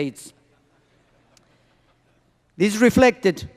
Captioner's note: laughter